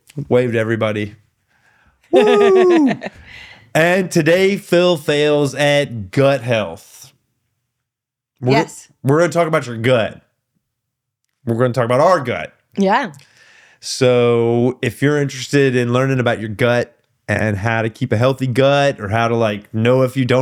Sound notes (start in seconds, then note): 2.1 laughing